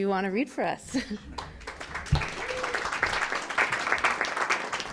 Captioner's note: audience applause